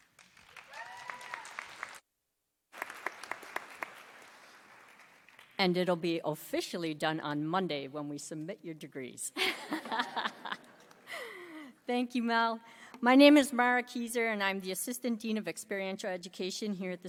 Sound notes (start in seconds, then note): 0.3 audience applauding; 9.7 laughs